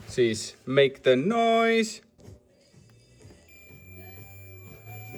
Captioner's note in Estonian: heli piiks